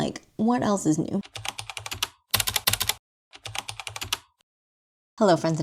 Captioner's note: typing